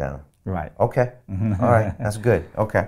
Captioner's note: laughing